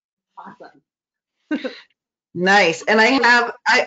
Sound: laughs

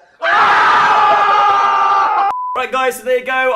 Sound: group yelling

